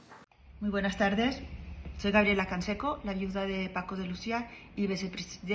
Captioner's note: speaking in Spanish